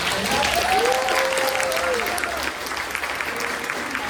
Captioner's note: applause